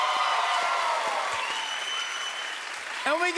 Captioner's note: cheers and applause